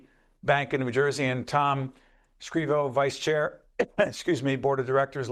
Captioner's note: cough